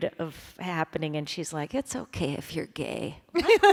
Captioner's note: imitating mother; laughter